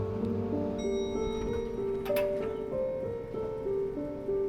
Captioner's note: elevator dinging